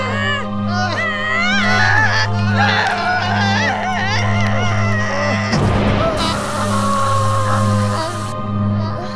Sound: screaming

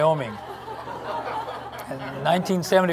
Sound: laughter

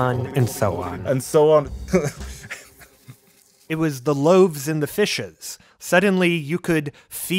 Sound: laughs

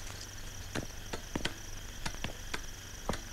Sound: none

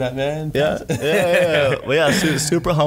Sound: laughing

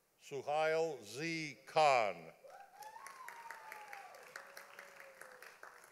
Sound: audience applauding

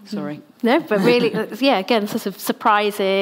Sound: laughs

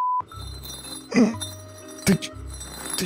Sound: sound of bricks on ceramics

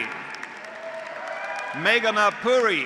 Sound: graduates applauding; graduates cheering

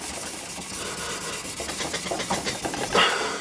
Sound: strong panting

